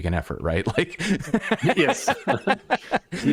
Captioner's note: laughter